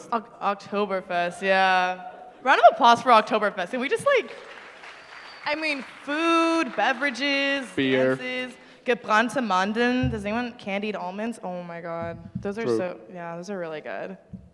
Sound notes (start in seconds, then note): 3.9 applause; 9.1 german speech